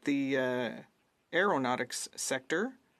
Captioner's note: speaking French